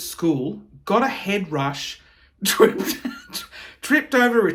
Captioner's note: chuckling